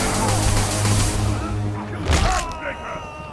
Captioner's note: music quiet now, loud snap of batman's back and a yell